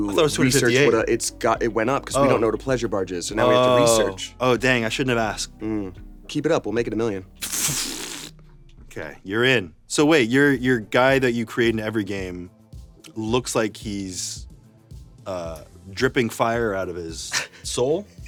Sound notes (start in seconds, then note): 7.4 blows raspberry